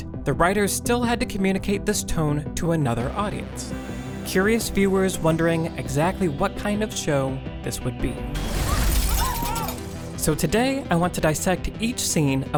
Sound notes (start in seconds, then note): 8.3 glass shattering; 9.1 screaming